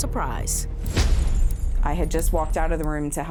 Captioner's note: car crashes